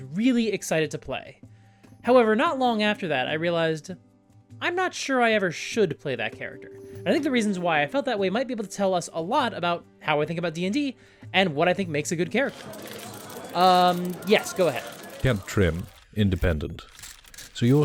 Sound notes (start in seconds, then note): 12.4 crowd of reporters shouting